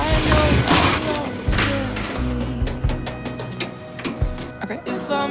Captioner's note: object clatters